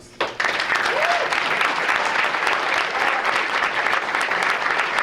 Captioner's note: audience applauding